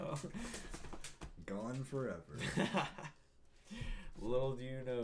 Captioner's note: laughing